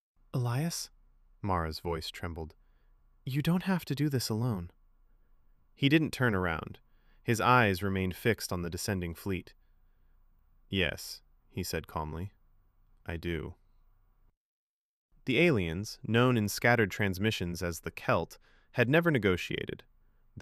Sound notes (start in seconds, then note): 14.2 pause